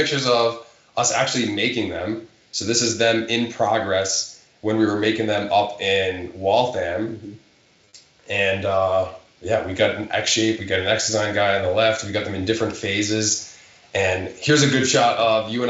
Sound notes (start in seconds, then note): none